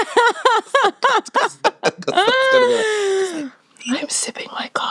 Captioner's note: laughing